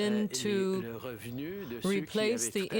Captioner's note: speaking French